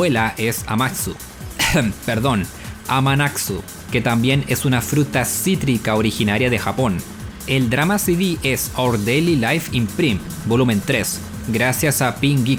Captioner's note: cough